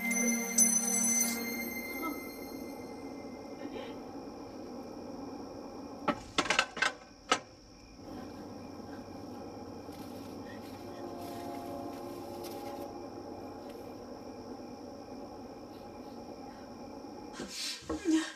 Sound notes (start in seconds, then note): 2.4 wind blowing; 3.5 sobbing; 5.1 wind blowing; 6.1 clattering sound; 8.0 wind blowing; 11.1 rustling sound; 14.1 cricket chirping